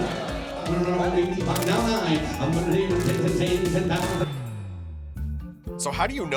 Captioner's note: rapid auctioneering